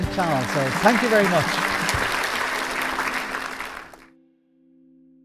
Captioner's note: crowd applauding